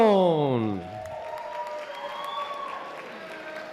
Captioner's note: applause